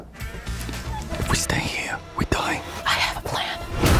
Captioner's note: whispering